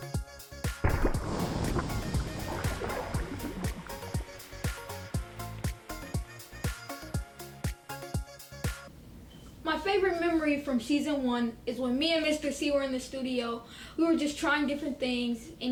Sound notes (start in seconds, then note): 0.8 egg splats in slow motion